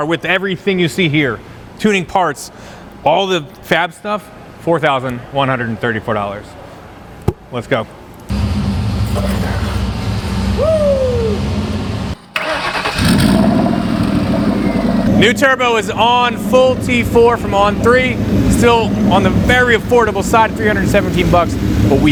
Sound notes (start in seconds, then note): 8.5 engine rumbling softly; 10.5 whoops softly; 12.4 engine revving loudly